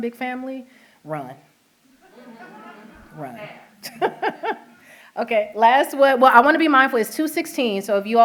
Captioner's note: laughter